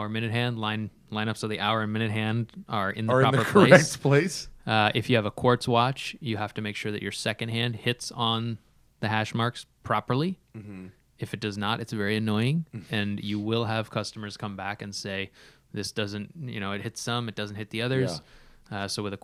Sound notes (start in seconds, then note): 3.3 laughter